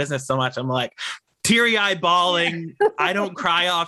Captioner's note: laughs